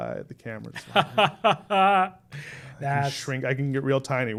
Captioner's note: laughing